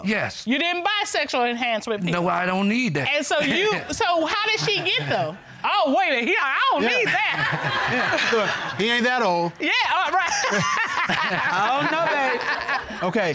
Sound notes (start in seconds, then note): 9.7 laughs